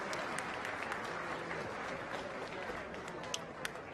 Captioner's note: crowd murmuring